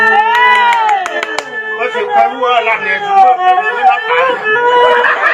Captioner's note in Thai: ปรบมือ